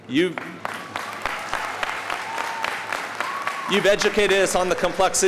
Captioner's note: audience applauding